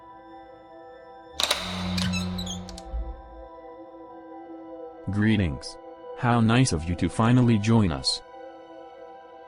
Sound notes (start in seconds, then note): 1.4 lock clicks; 1.4 door squeaks